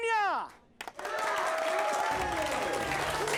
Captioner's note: clapping